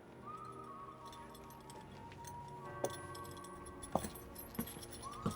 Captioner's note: holster rattling